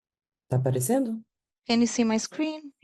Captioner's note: speaking in Portuguese